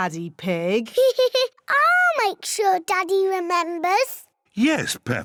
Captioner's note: laughs